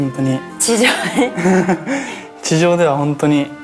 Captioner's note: laughs